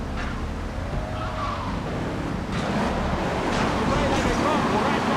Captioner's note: ominous music; muffled yelling